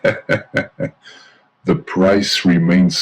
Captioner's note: laughs